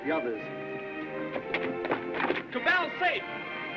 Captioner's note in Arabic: خطوات متسارعة